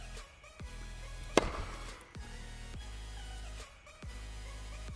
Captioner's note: ball whacks